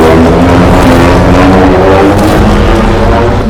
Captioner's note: Godzilla roaring loudly with loud explosions